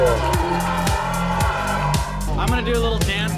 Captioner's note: crowd screaming